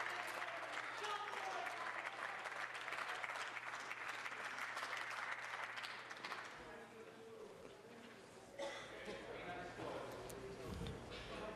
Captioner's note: applause